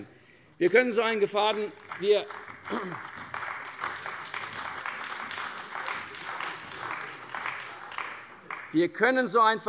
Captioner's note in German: Beifall bei der CDU und dem BÜNDNIS 90/DIE GRÜNEN